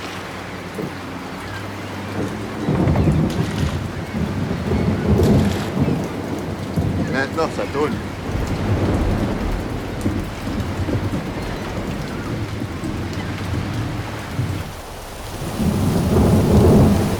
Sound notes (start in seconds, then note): 2.8 thunder